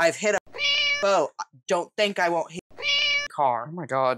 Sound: meow; meow

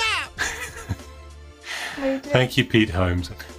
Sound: chuckles

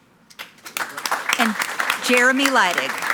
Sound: attendees clapping

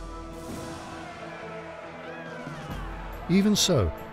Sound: citizens shouting

